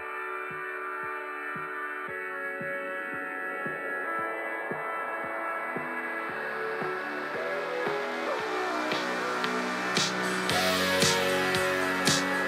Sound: record scratch

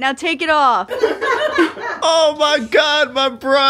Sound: everyone laughs

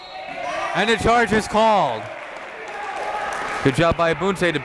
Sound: whistle blows; applauding and cheering

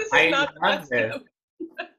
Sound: laughing

